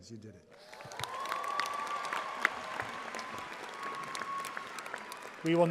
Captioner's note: audience applauding